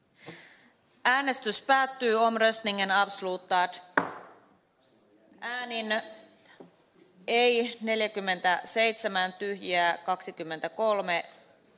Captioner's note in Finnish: nuijan kopautus